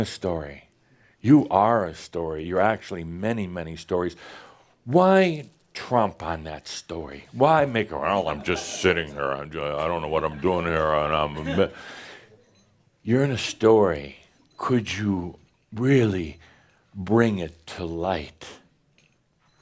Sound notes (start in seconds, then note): 12.5 in dull voice